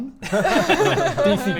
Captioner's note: hopeful laughs